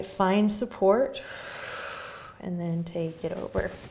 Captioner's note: exhaling